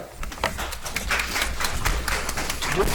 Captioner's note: audience applauds